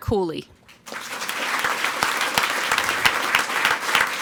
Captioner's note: people clapping